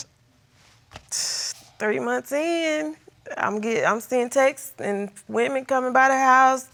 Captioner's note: exhales sharply